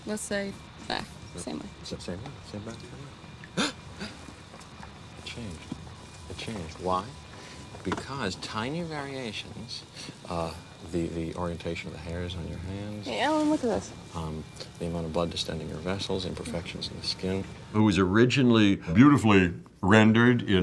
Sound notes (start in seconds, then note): 3.4 gasps